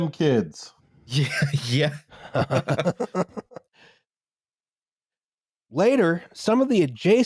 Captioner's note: laughs